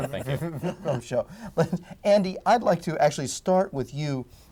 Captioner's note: laughs